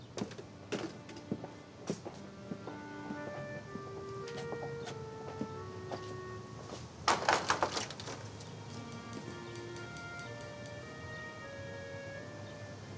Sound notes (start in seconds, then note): 0.3 somber orchestral music; 7.2 fist rapping